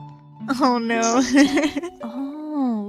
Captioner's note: laughs